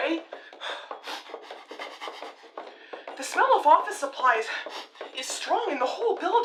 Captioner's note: sniffing